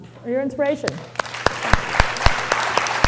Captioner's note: applause